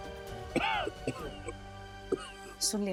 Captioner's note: coughs